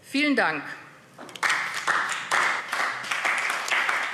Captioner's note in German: Beifall AfD